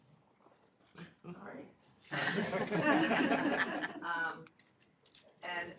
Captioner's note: laughter